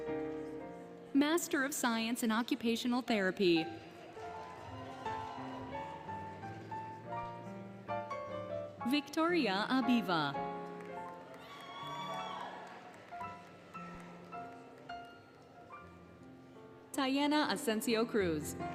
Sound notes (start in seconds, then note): 4.1 cheering, Music; 10.3 applause, Cheering, Music